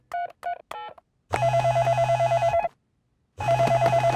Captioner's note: ringing